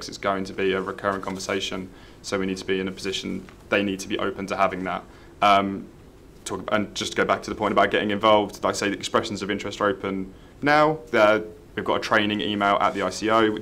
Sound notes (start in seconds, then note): none